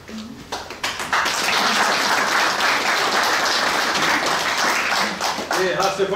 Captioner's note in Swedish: Applåder